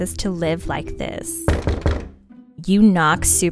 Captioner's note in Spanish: tocan a la puerta